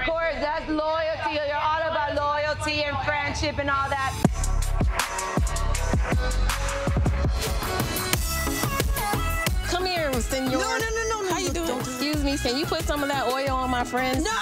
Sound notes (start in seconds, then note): 3.7 upbeat instrumental music; 10.0 speaks foreign language